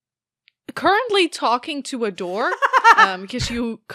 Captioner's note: Alyssa laughs